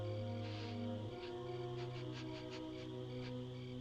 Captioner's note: sniffing